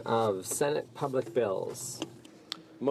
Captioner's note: speaking french